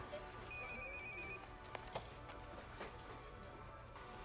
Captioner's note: phone rings